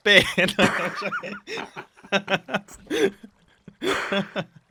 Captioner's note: both laugh